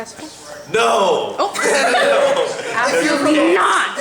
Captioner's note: laughter